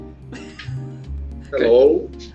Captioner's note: laughs